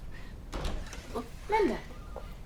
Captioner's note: door clattering